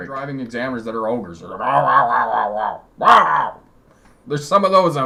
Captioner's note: making funny noises to simulate ogre